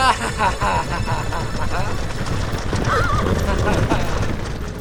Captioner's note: צוחק